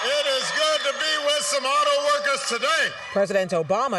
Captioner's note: cheering and applause